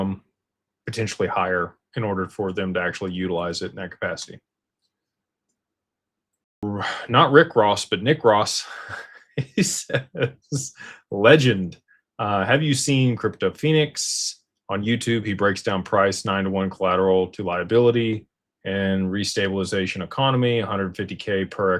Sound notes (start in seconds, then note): 8.7 laughter